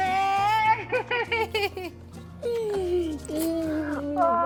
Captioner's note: laughter